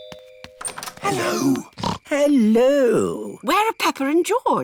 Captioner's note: rings doorbell; oinks